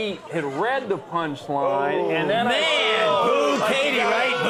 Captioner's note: audience exclaims